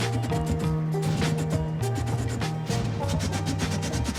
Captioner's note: fire blasting